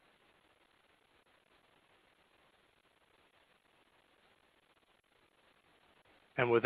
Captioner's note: silence